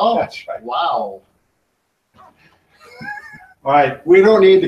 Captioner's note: laughing